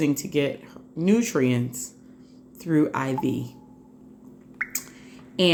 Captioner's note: drip sound